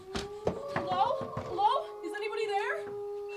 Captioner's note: frantic knocks